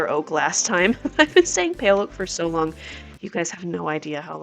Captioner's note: music stops; laughs